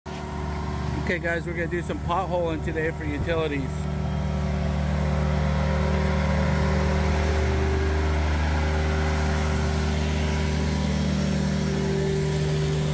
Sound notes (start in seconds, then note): 3.8 hydrovac hooving; 4.5 water splashing